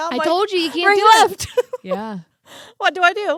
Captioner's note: laughs